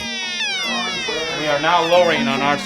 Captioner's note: alarm blaring